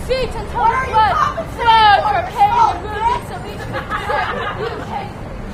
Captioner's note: laughter